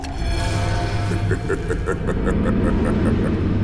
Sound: laughing

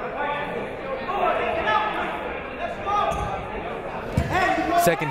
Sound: shouting

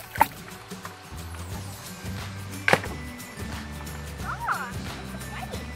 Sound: water splashing

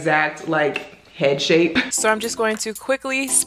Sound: chuckles; techno music

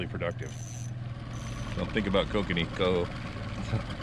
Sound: reel spinning

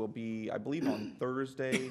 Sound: laughter

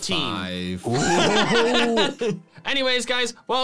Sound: laughing

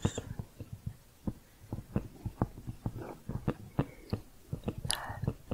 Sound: tapping continues

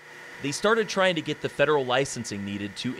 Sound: voiceover

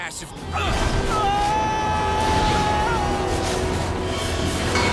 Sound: shouts

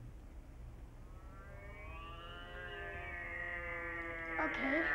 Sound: Reg imitates a plane engine

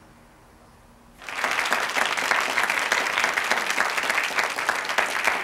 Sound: audience applauds

